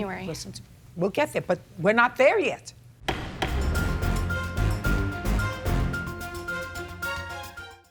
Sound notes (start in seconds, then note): 3.1 gavel thudding; 3.1 intense music